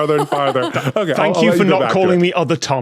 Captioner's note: laughs